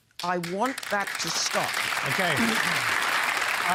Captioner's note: applause